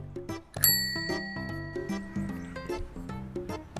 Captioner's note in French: diinnggggg